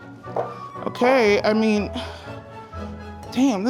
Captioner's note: classical music continuing; sighing